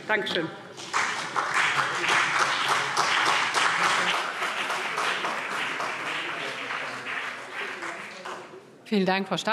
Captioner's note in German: Beifall CDU und BÜNDNIS 90/DIE GRÜNEN